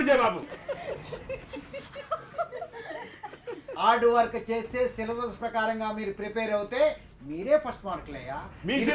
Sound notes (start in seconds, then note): 0.4 students laughing